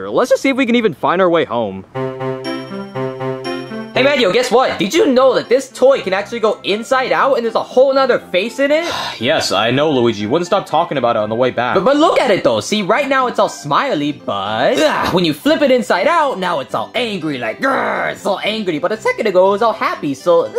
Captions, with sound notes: Let's just see if we can even find our way home. (bright music) - Hey, Mario, guess what? Did you know that this toy can actually go inside out and there's a whole 'nother face in it? - (sighs) Yes, I know Luigi. You wouldn't stop talking about it on the way back. - But look at it though. See right now, it's all smiley. But when you flip it inside out, now it's all angry. Like (groaning), it's all angry. But a second ago, it was all happy.